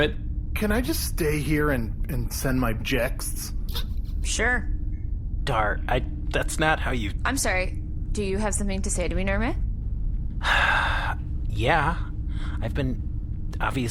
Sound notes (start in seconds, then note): 6.7 passive-aggressive; 10.4 sigh, indignant